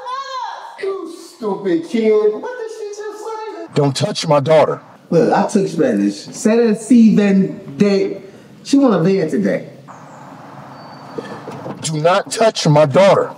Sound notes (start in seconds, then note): 5.1 speaks in foreign language